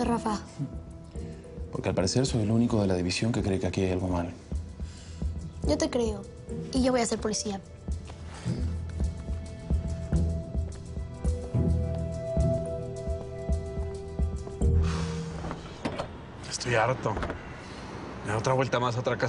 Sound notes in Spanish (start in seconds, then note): 14.6 exhala